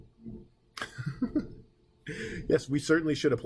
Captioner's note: laughing